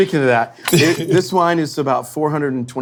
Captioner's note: glass breaking